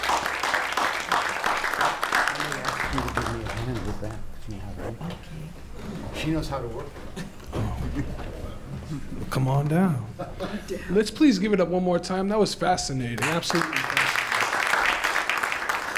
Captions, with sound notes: [BACKGROUND CONVERSATION] Come on down. Let's please give it up one more time. That was fascinating, absolutely fascinating. [APPLAUSE]